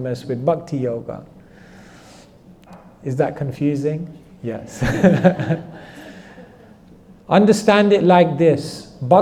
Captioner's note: laughter